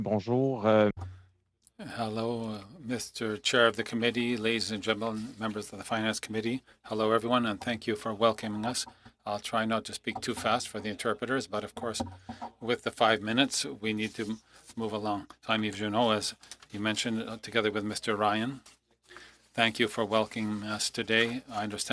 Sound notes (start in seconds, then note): 10.9 speaking French